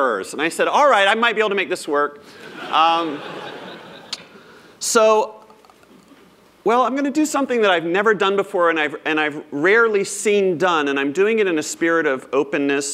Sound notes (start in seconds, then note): 2.4 laughter